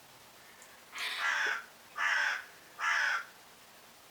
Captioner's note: crow cawing